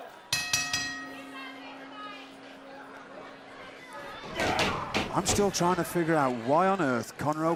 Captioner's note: bell ringing